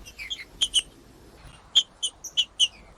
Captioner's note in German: trinca ferro cantando; trinca ferro cantando